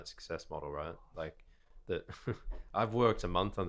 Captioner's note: chuckling